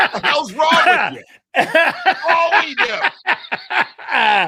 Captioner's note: laughing